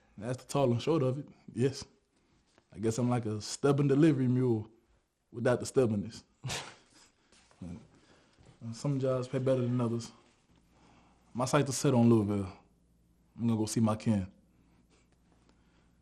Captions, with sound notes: - That's the tall and short of it, yes. I guess I'm like a stubborn delivery mule without the stubbornness. (both chuckling) And some jobs pay better than others. My sights are set on Louisville. I'm gonna go see my kin.